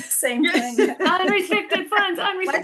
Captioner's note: laughing